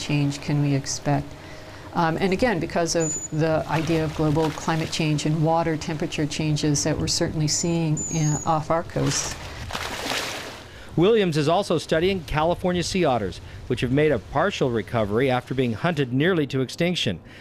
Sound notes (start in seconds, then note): 8.9 splash